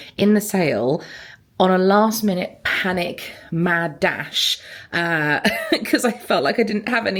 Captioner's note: laughing